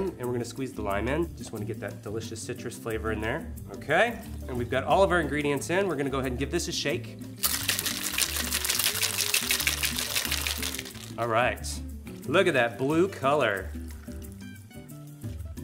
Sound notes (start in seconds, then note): 7.4 ice rattling